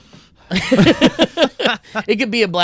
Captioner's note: laughing